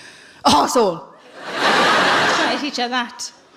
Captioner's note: laughing